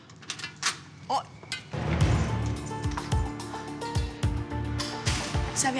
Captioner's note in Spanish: Ruido al abrir